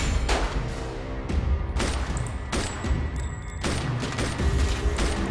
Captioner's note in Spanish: Disparos